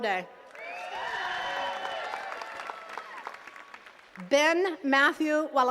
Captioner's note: attendees cheering and clapping